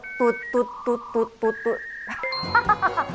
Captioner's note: Mandarin; Cantonese